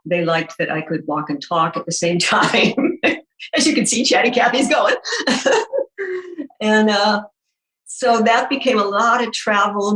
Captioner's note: laughing